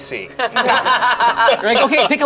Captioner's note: group laughs